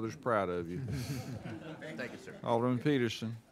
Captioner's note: laughing